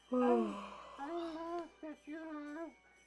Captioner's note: Arizona yawns